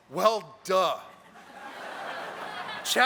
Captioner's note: laughter